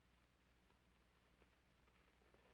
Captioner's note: none